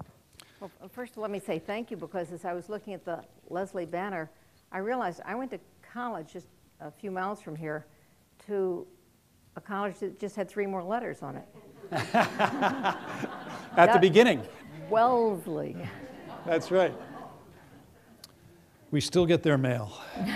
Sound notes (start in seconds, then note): 11.8 laughter